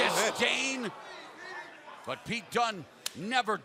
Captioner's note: crowd cheering